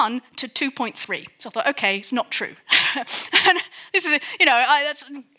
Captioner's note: chuckles